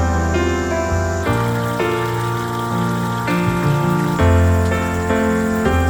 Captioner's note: water flowing